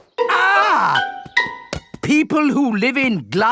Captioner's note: screams